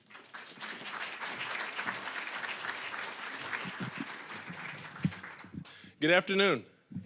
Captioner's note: applause